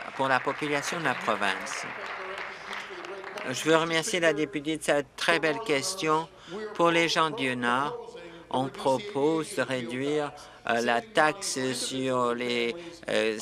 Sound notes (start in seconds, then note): 2.6 applause